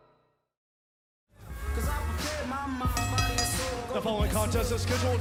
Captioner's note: bell ringing